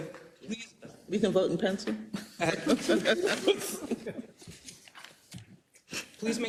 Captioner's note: laugh